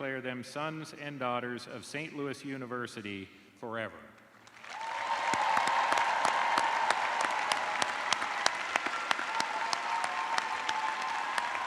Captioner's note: cheers and applause